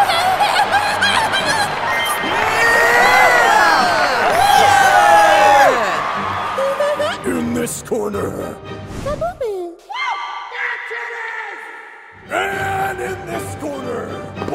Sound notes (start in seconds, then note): 7.4 deep voice